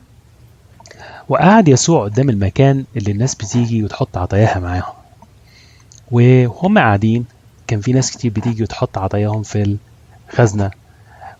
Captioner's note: playing in another language